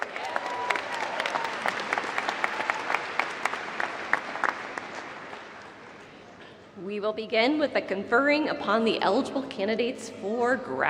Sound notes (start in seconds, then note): 2.3 applause